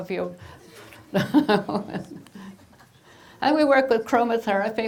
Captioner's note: laughing